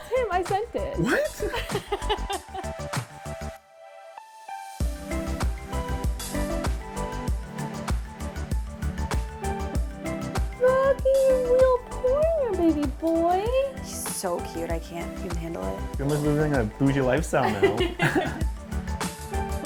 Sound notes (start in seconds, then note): 1.0 laughing; 3.3 upbeat music; 17.4 group laughing; 19.4 upbeat music